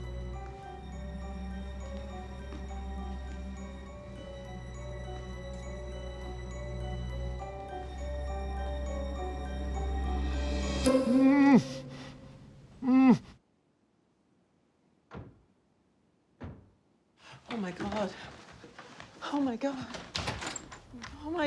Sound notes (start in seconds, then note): 10.8 muffled Moans; 15.0 car Doors Slamming